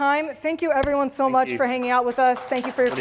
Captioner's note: applause